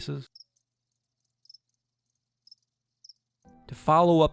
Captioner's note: crickets chirping